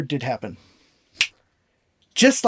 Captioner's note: snap